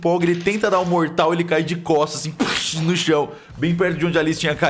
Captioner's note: crash